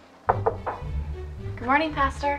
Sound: knocking

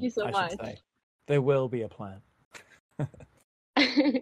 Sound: laughs

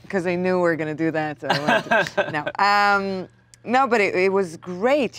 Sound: Kumail laughs

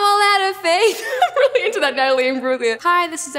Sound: laughs

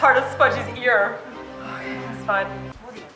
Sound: takes breath

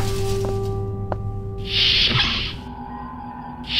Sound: door closes

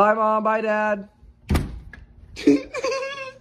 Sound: slam door; giggles

